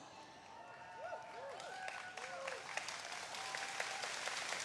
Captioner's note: audience cheering